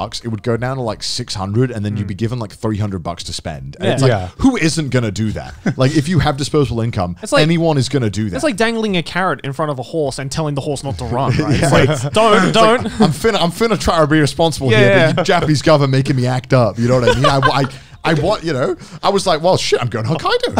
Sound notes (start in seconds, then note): 10.9 chuckles